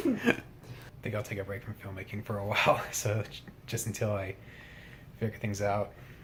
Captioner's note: chuckles